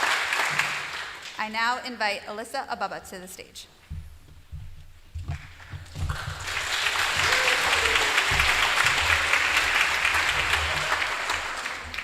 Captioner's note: applause